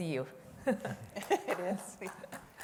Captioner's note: laughter